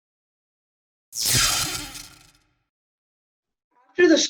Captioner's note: zap